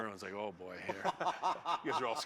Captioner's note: laughs